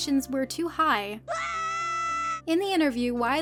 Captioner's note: Link screams as he falls